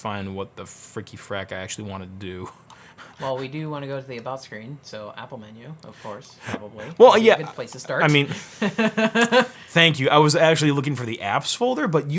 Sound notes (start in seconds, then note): 3.0 laughs; 6.3 laughs